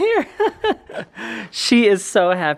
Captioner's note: laughing